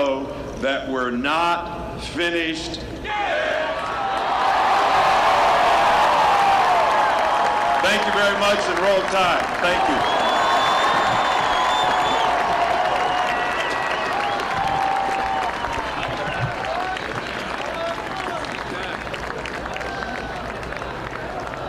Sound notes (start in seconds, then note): 8.4 applause